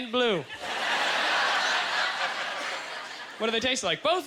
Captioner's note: audience laughter